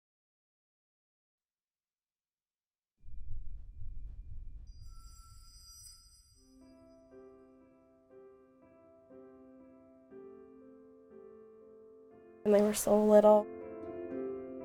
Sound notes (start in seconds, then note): 3.0 heartbeat sounds